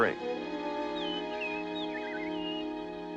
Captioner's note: birds singing